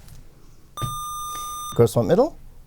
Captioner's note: buzzer